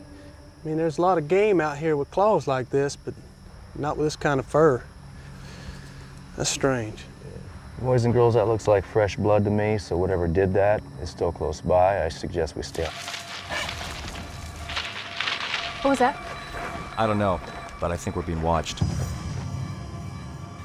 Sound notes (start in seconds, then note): 12.6 branches rustling; 13.0 animal shrieks